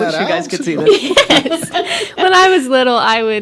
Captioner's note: group laughing